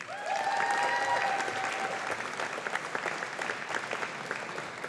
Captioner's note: audience applauding